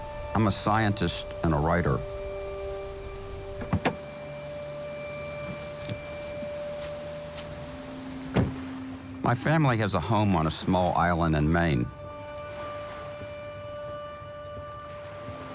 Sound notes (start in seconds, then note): 5.1 insects chirping; 8.3 door closes; 12.7 pensive music